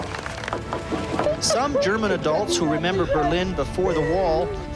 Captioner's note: rock hammers cement